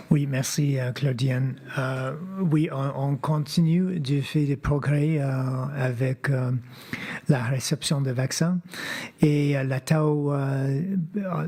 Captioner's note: speaking French